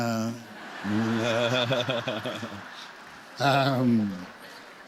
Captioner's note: laughter